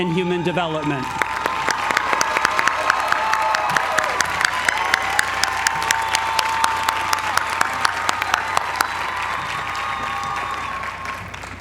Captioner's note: applause